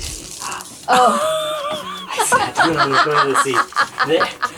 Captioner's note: laughs